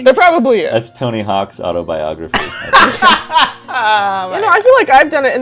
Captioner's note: laughter